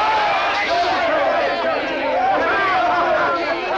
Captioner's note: soldiers clamor for food